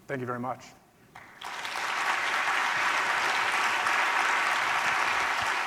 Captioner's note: audience clapping